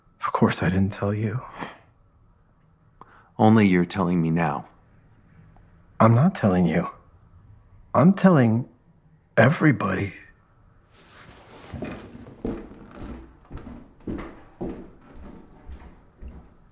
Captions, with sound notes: Of course, I didn’t tell you. Only you’re telling me now. I’m not telling you, I’m telling everybody. (footsteps receding)